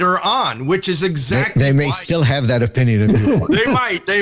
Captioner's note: laughter